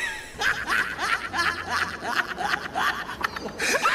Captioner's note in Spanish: risas estridentes